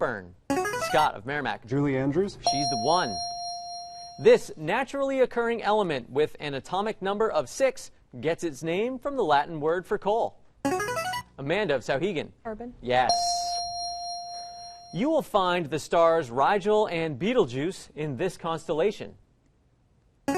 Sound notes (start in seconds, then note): 2.4 ding; 10.7 player buzzer; 13.0 ding; 19.5 player buzzer